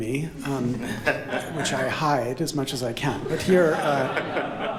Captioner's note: laughter